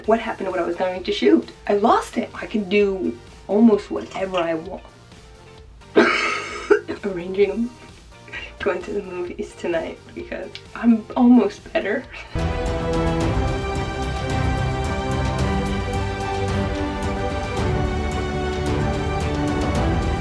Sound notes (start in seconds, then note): 5.9 coughs; 12.3 triumphant music